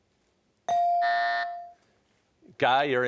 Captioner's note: rings; buzzer